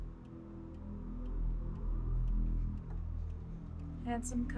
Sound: clock ticking; ominous music

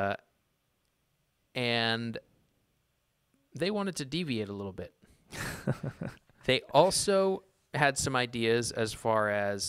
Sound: laughs

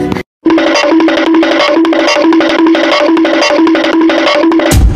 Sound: goofy ah running sound

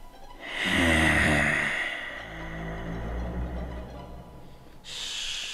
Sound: long hiss

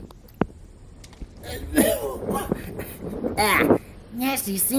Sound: coughing

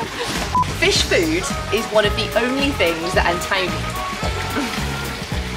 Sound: laughs

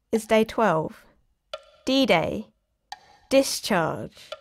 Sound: tick tock sounds

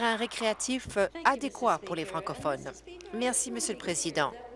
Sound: applause

